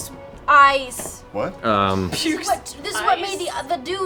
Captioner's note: laughs